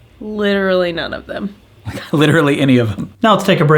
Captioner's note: laughs